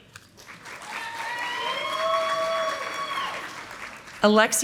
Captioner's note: audience applauding